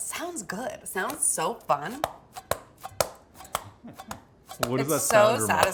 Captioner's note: dough thudding